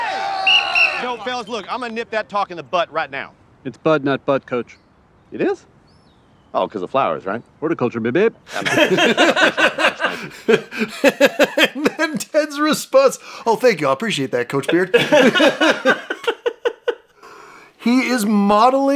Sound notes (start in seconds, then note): 8.4 laugh